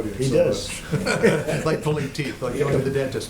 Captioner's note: laughter